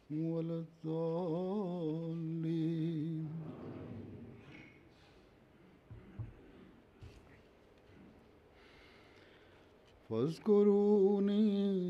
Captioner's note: Arabic, Holy Quran 2:153